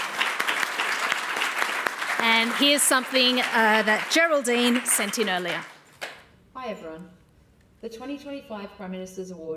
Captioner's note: applause